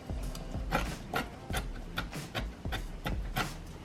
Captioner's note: knife cutting